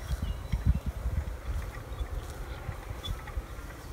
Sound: birds singing

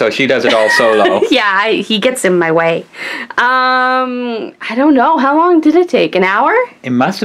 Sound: laughs

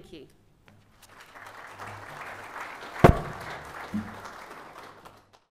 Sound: applause

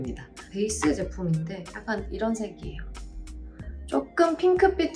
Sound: speaking in Korean

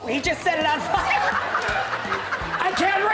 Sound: crowd laughing

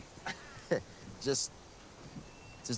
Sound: Hopkins chuckling

